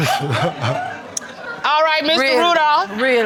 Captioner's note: crowd chuckles